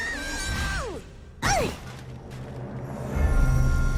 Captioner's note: grunting